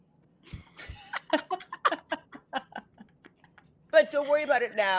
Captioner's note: group laughs